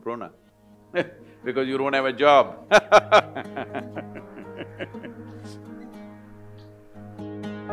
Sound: chuckles; laughs

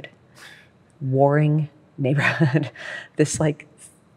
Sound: laughs

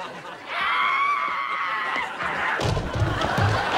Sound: screaming; gavel pounding

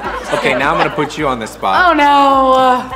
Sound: laughter

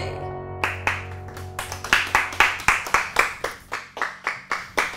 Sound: applauding

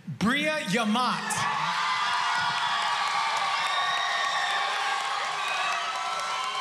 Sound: cheering

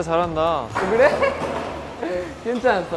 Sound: laughing

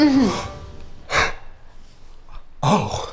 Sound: gasps

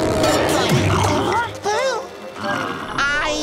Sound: gasping

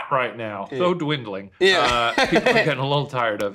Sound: laughs

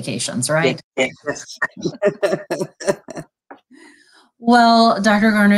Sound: laughter

